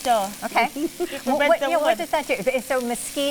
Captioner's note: laughs